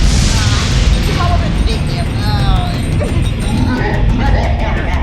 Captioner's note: groaning; laughs evilly